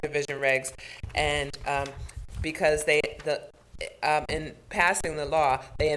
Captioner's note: stammers